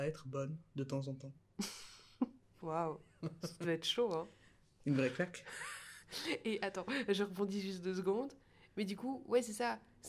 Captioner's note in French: rires